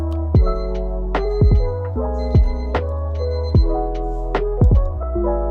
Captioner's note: beep Beep